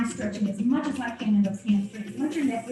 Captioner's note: speaking muffled by body position